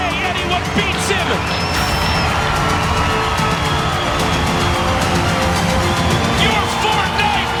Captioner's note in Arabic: تشجيع الجمهور